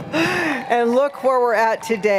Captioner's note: applause